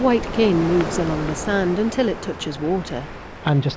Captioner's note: wave crashes